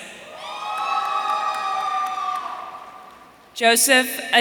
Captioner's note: audience cheering